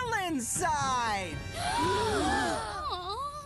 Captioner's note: heroes Gasping